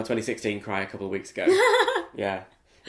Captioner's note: laughs